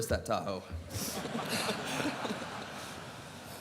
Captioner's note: laughter